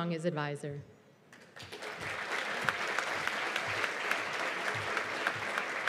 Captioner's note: applause